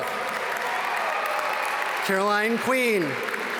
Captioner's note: audience cheer and applaud